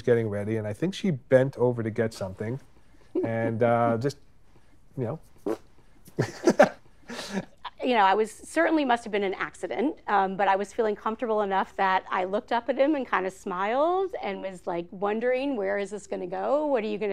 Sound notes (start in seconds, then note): 6.1 laughs